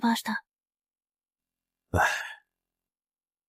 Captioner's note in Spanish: Suspiro